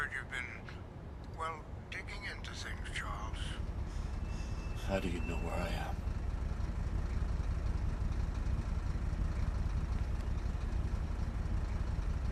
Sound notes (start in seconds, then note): 6.9 car engine humming